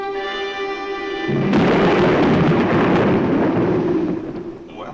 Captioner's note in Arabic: تصفيق الرعد